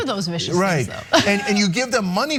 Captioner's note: laugh